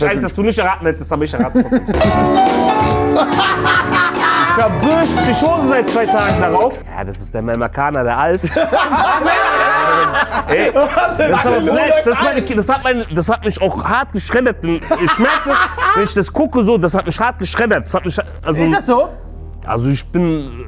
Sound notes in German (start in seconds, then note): 3.8 Gefühlvolle Musik; 9.2 Lachen